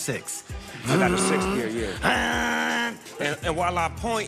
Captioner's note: imitates engine revving